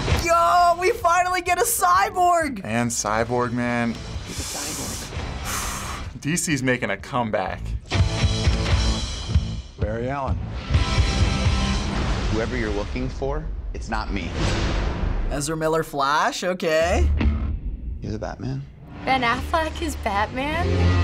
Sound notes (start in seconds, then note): 4.2 takes heavy breath